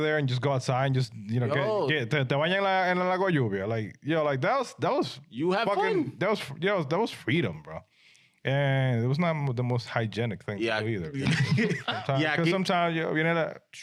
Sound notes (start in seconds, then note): 2.3 speaking In Foreign Language; 11.1 laughing